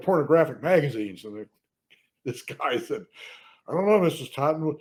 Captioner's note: laughs